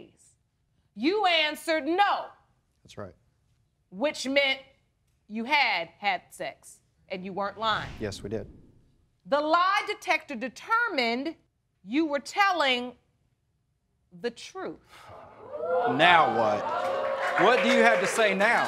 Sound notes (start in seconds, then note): 15.1 audience hooting; 15.6 applause